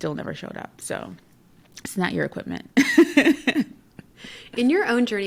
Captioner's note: laughs